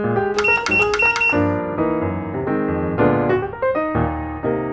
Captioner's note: click 4 times in a row